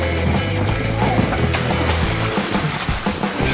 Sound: upbeat music; splash

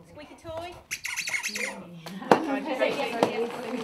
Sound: noise of squeaky toy

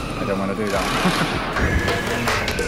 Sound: laughs

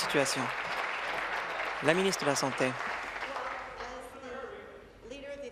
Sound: applause

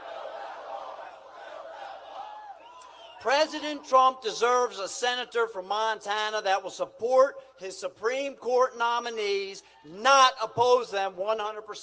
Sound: crowd chantg

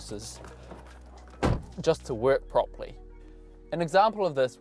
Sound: car door slams

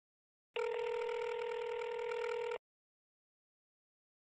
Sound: phone ringing

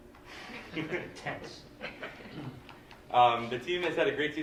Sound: laughter

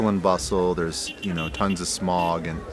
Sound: horn beeping

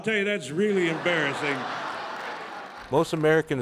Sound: laughter

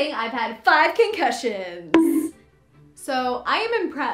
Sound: bonk

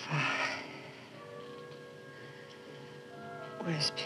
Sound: breathing heavily

